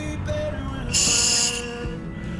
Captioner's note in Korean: 후우